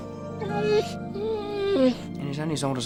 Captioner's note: dog whines